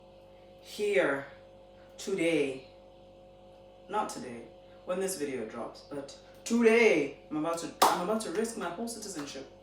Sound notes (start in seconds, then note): 7.8 claps in Tanzanian auntie